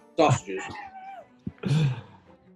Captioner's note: chuckling